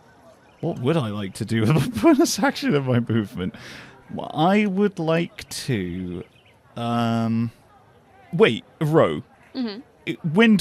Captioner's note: laughing